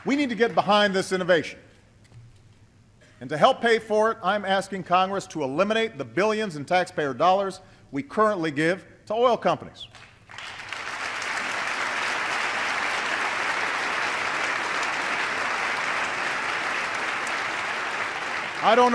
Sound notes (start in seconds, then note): 14.1 applause